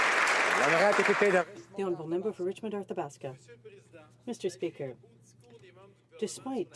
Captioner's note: applause